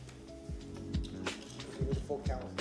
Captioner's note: sounding gavel